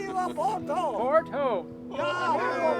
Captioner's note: crowd